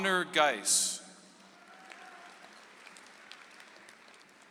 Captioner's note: audience applauds